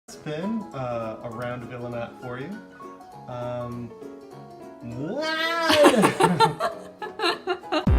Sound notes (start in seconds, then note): 5.0 loud incoherent yell noise; 5.7 laughter from camera woman and this weirdo